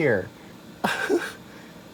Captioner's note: giggles in denial